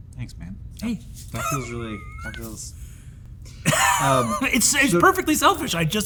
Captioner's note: Brennan chuckles